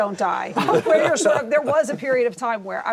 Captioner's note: laughter